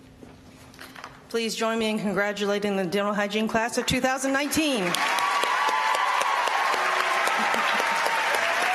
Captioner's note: applause